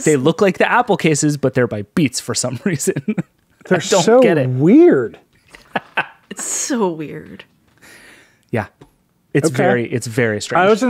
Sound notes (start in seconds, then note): 5.5 laughing